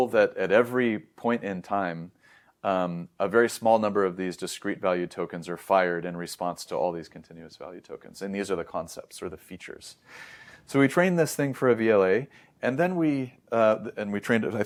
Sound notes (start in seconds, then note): 10.0 inhales